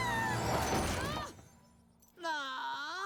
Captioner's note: crash